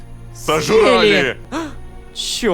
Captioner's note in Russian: хором